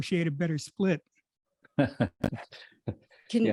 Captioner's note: laughs